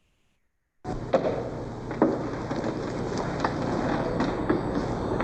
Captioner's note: footsteps and static hums